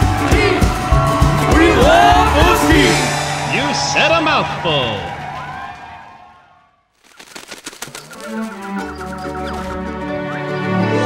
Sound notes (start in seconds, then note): 4.8 cheering and applause; 6.9 wings flapping